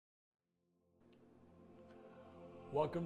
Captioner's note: pause